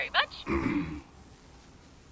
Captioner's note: Santa clears his throat